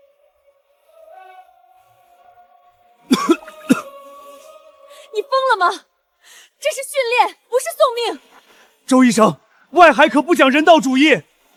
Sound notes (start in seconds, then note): 3.0 cough, cough